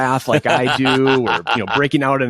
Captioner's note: laughs